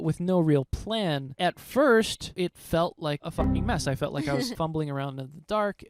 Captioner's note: laughing